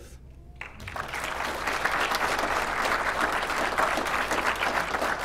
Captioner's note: applause